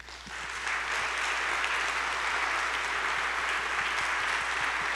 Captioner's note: audience clapping